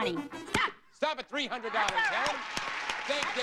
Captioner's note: audience applauding